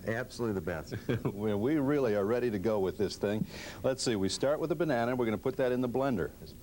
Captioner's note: chuckling